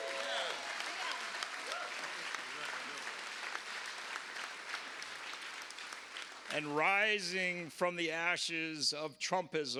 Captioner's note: cheers and applause